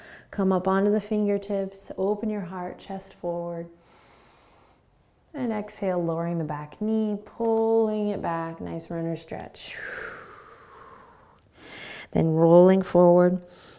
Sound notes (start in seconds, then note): 3.8 inhaling; 9.7 exhaling